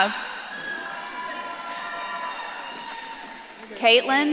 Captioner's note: audience claps and cheers